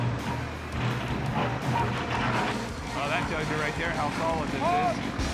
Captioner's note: scraping sound